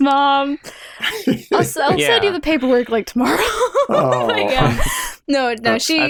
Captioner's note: laughter